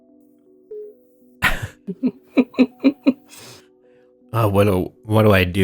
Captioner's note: chuckle